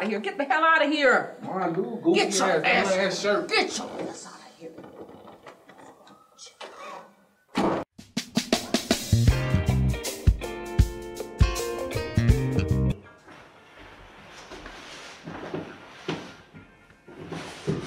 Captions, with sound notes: Get the hell out of here. (Dre speaking faintly) Get your asses! Get your ass out of here. What's wrong with you? (door slams) (rhythmic music)